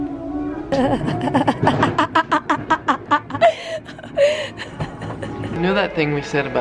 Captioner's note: laughing